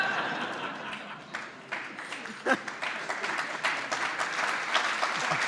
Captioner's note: laughter; applause